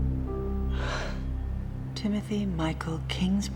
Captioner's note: exhales